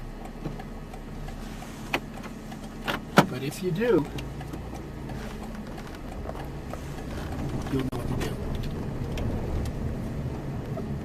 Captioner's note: left turn signal clicking